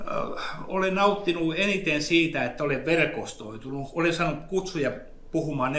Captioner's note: speaks in Finnish language